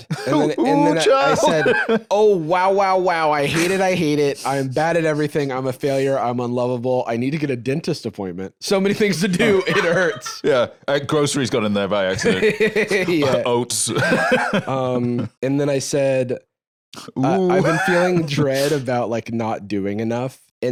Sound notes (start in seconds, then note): 12.7 laughs